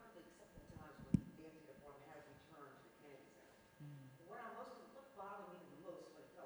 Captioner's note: speaks faintly